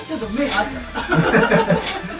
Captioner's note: laughs